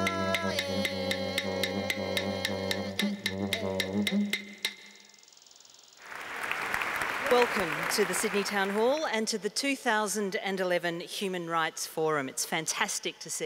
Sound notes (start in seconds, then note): 6.0 applause